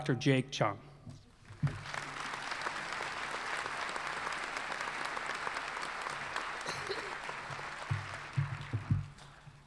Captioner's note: applause